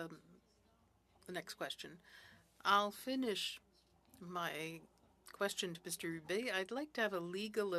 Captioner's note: speaking French